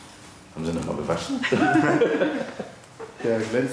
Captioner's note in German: Sie lachen